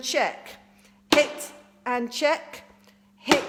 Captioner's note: smacks; smacks